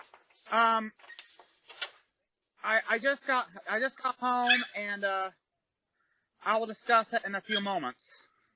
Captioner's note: Ella barks and howls